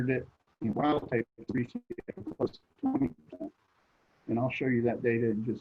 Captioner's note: connectivity hitch drowns other sounds